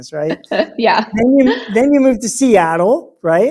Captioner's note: laughs